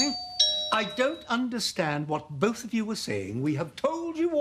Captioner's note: doorbell